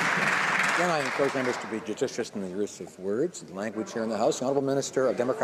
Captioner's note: some Applause